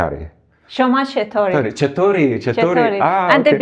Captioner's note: trying to speak Persian; speaking Persian